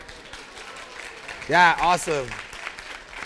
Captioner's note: applause